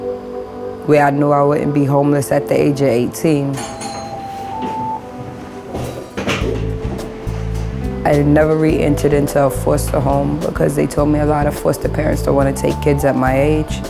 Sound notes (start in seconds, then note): 3.4 rings doorbell, sound of door opening